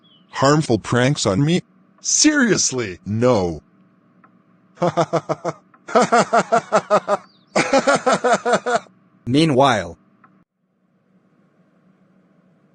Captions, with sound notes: Harmful workgabs on me?! Earnestly?! No! *laughs stoltly* Meanwhile…